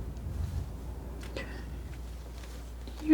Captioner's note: scratching